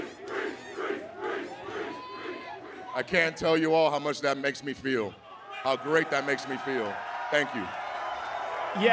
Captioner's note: crowd chanting "priest"